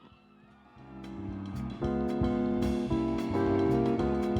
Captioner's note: audience cheering